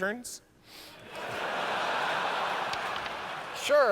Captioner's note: laughter